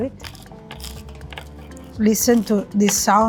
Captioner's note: pizza crust crunching